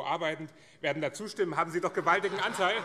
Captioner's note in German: Heiterkeit